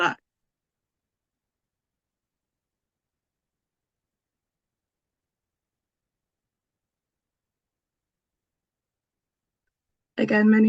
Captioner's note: silence